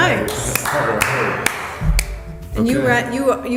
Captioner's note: clapping